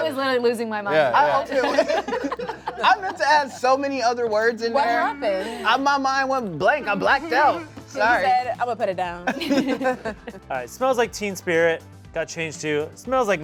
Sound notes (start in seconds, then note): 1.0 laughs; 9.3 cast laughs